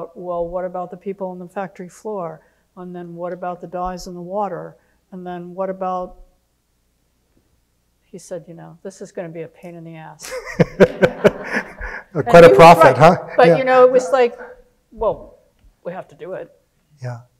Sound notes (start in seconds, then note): 10.4 audience laughing